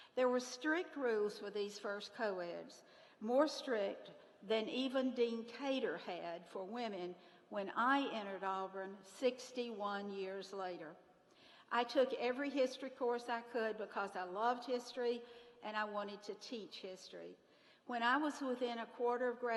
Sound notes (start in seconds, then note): none